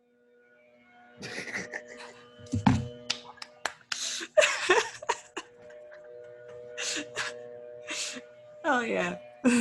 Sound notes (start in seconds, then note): 1.2 laughs